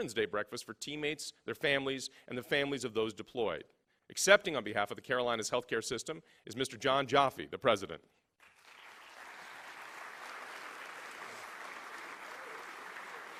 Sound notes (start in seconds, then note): 8.4 applause